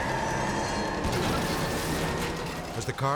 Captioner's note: tires squealing; tires explode